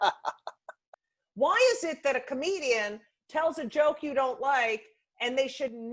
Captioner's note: laughing